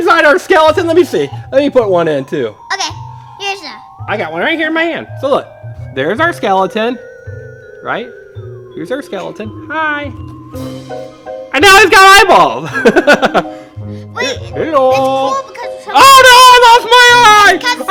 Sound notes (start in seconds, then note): 12.6 laughing